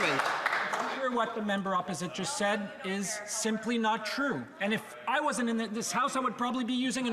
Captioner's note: some Applause